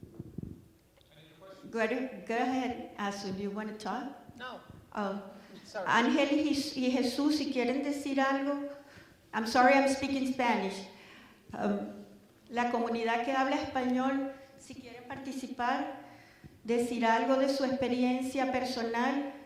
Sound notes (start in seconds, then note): 4.7 no from audience